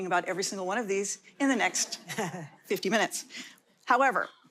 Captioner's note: light audience laughter